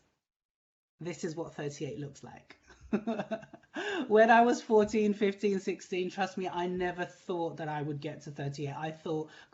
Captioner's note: laughing